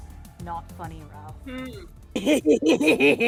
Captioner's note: hmms; laughs evilly